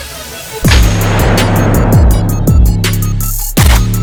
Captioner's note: gun fires; gun firing